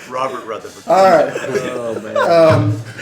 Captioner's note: laughter